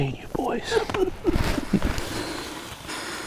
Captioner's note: laughing